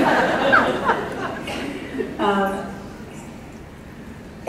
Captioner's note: laughter